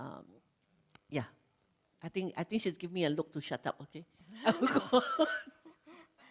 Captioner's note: laughs